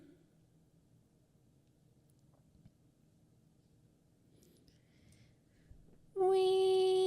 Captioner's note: the suspense is stifling, and pure silence